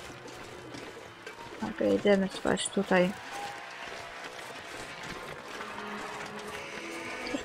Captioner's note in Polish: Aplauz